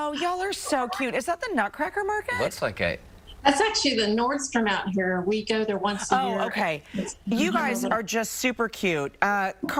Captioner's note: laughter